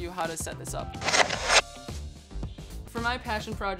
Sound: title whooshing

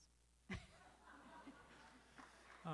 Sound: laughter

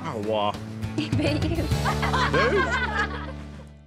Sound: laughter

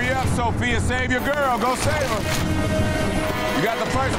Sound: hands clapping; ominous music

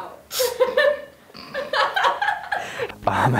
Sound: laughing

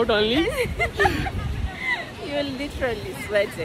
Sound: both Laughing

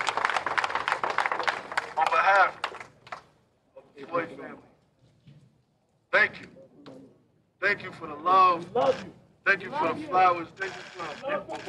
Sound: applause

